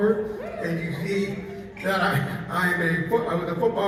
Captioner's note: chuckles